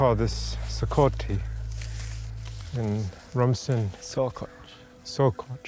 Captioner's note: speaks Rumsen